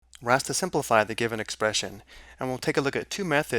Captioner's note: voiceover